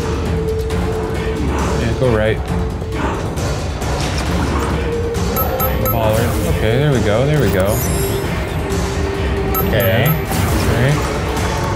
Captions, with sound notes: Yeah, go right. (portal beeping) All right, okay. There we go, there we go. - Okay. - Okay, great.